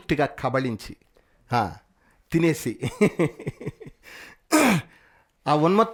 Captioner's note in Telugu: నవ్వు